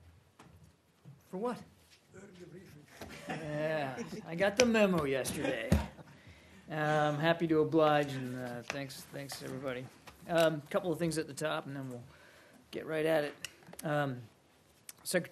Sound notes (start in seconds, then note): 3.8 laughter